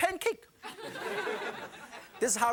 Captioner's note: audience laughing